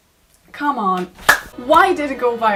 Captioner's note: slap